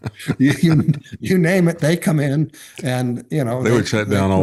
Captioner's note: laughing